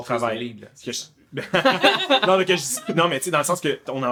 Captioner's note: laughs